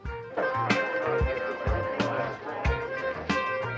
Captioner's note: people chattering